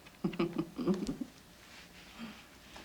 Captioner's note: sallie giggles